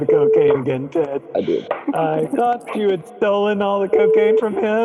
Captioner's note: chop; giggles